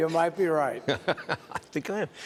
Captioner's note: laughter